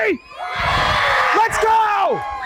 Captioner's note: crowd cheers